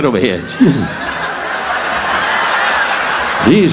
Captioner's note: audience laughing